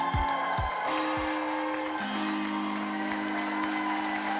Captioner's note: audience cheering